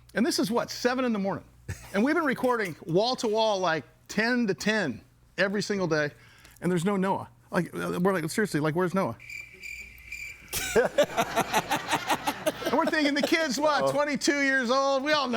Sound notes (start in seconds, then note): 9.2 insects chirping; 10.5 crowd laughing